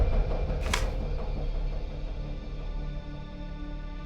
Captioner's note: gun clicks